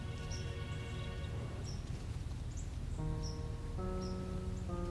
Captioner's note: birds chirping; leaves crunching